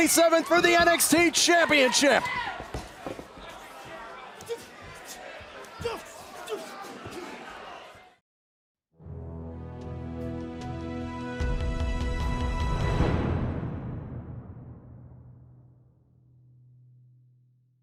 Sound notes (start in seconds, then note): 4.5 crowd chatter